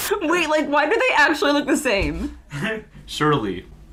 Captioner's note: static